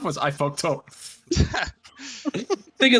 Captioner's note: haha